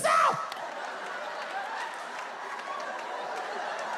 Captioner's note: audience laughs